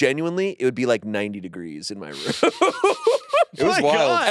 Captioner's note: laughs